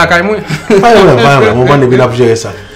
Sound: chuckles

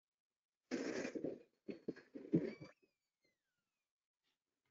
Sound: rustling

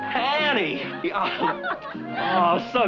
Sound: laughter

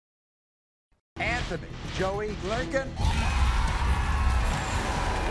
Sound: audience cheers

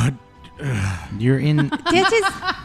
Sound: laughs

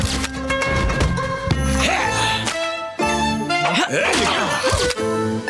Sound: grunting

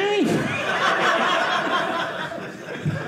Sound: audience laughing

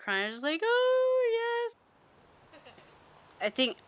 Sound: imitates crying

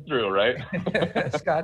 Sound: chuckle

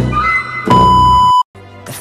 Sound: static sound beep

